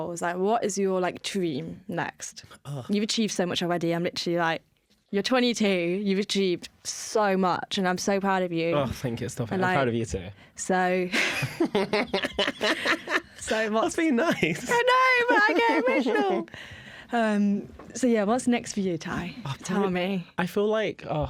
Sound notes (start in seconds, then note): 11.1 laughter